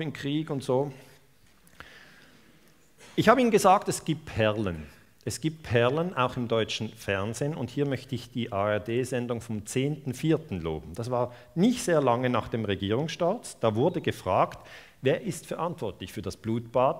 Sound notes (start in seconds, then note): 8.6 German broadcast